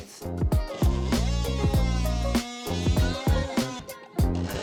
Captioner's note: saw buzzing